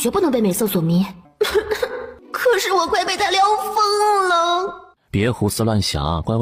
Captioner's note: coughs